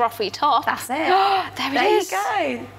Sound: gasps

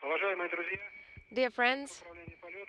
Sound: foreign language

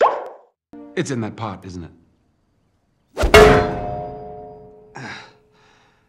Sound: saucepan Banging

